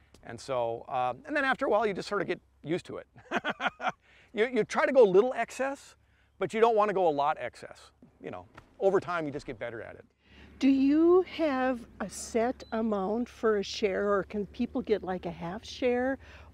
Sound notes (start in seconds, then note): 3.2 laughs